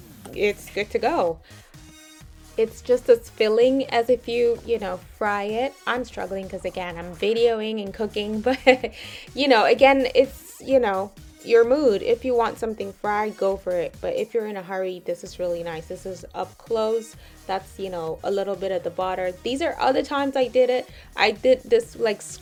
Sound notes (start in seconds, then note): 8.4 laughs